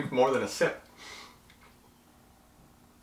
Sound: sniffs

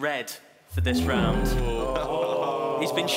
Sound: groaning

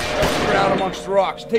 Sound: guns firing

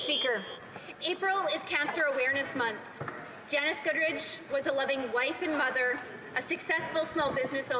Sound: speaking French

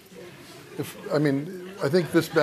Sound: laughter

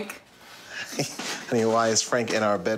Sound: laughs

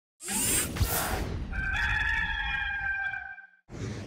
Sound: rooster crowing

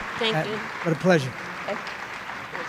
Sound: applause

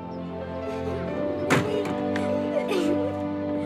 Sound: both giggling

